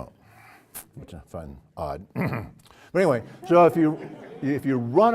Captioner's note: cough; laugh